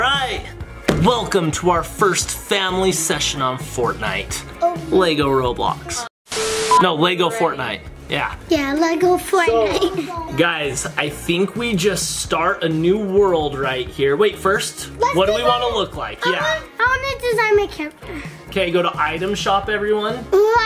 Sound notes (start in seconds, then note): 6.3 TV static; 9.6 laughs